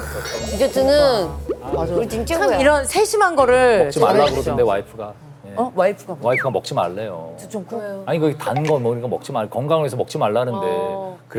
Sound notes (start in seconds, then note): 4.3 grumbling